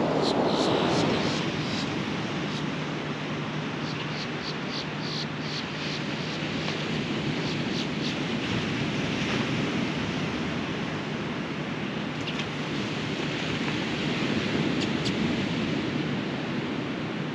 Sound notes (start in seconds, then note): 0.0 the sounds of the ocean’s waves grows softer; 6.3 the calls of Boat-tailed Grackles continue